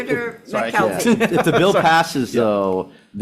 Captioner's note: audience laughing